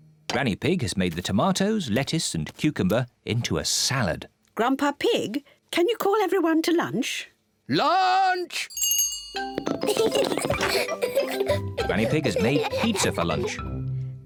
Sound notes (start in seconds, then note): 8.7 rings bell; 9.6 both laugh